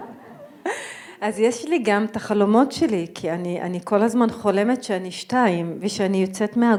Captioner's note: audience laughing; speaking in foreign language